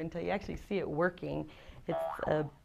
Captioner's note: boing